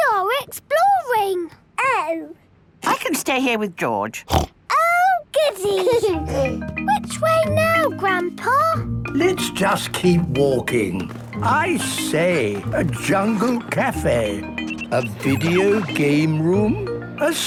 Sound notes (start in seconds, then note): 4.2 snorts; 5.4 George giggles